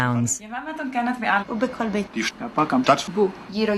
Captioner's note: speaking various languages